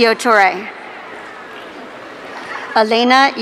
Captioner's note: audience cheering